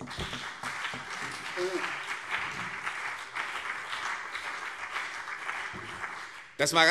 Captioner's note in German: Beifall CDU und BÜNDNIS 90/DIE GRÜNEN